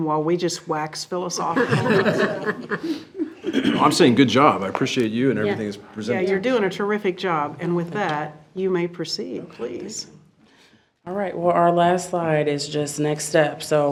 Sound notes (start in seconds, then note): 1.5 board laughs